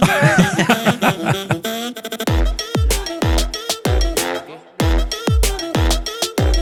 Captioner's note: all laughing; upbeat funky music